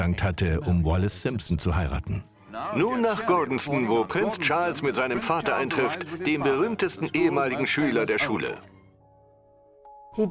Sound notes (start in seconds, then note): 2.5 voiceover